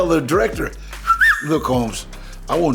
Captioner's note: whistles